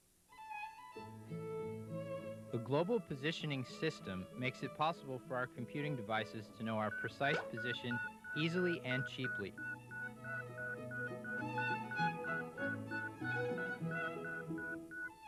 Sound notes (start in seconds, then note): 1.0 classical music; 9.6 beeping